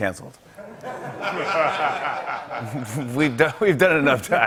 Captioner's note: laughter